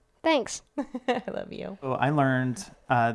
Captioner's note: laughs